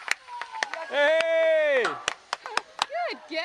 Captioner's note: cheering continues